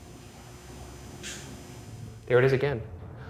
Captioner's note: object clicks